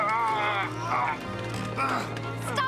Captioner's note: grunting